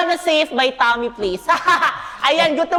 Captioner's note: laughs